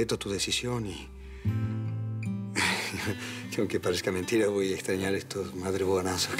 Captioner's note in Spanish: Risa nerviosa